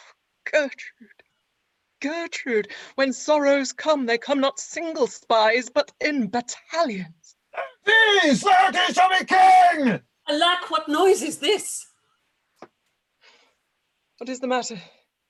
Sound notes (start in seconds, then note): 7.6 shouts from outside